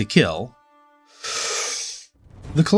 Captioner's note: deep breath